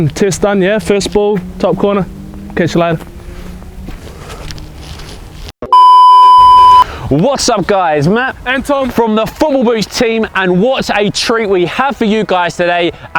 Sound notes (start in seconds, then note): 5.6 electronic beeping